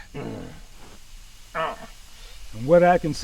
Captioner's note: Dogmouth groans